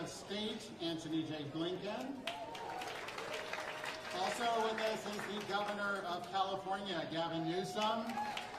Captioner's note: applause